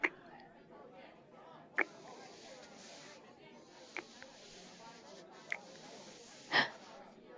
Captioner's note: kiss; laughs; gasp